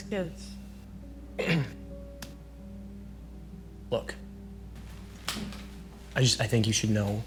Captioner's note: clears throat